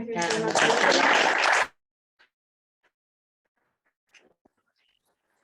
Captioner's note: applause